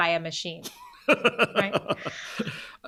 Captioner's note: laughs